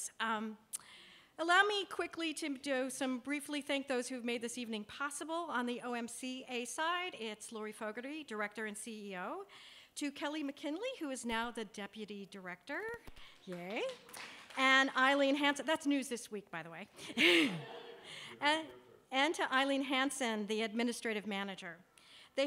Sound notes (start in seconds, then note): 13.2 applause; 17.0 laughs